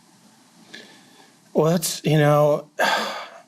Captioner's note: sighs